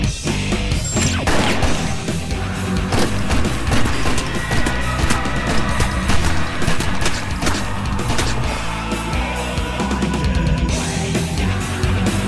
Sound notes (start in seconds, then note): 0.9 gun firing